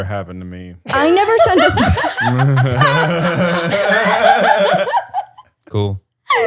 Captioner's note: laughter